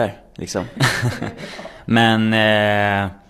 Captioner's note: laughs